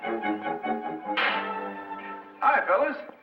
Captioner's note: gun pops